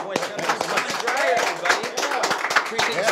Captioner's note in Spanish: aplausos